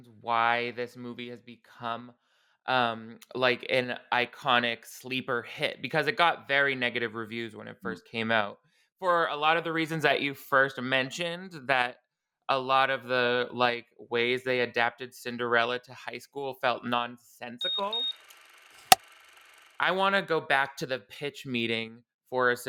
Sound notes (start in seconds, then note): 17.6 beeping; 17.7 clapperboard claps